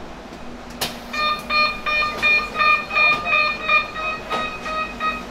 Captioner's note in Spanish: Sonido de cierre de puertas